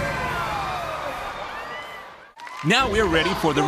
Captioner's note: bomb exploding; audience screaming